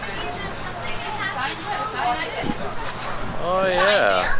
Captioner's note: patrons chatting